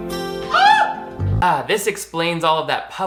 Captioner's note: screams